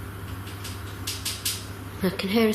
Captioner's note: tapping